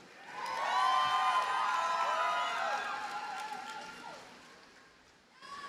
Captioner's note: audience cheers and applauds